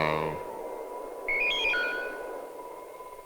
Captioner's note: electronic beep